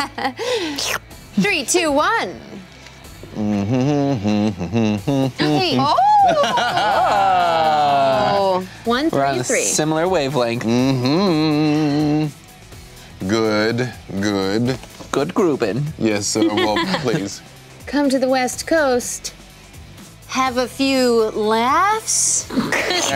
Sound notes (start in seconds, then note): 0.1 laughing; 3.3 humming; 16.5 laughing; 22.5 laughing